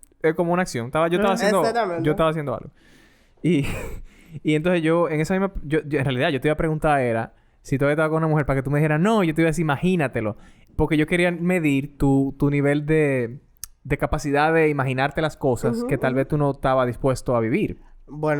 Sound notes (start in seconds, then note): 1.2 laughs